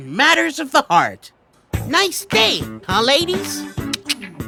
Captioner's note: laughing; clicks tongue